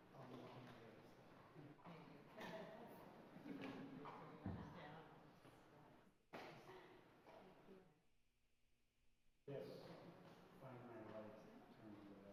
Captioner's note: applause